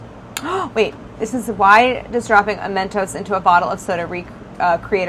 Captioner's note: gasps